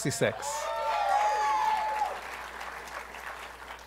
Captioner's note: applause